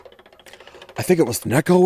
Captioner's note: wheel clicking